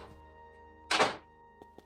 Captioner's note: door closing